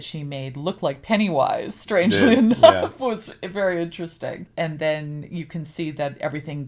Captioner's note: laughs